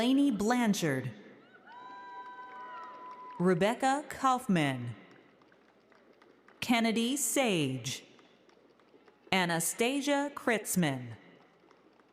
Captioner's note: applause